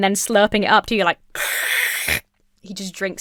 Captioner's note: slurps loudly